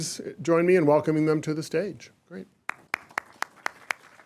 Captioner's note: applause